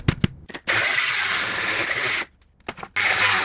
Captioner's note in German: Säge läuft